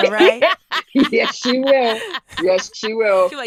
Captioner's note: laughing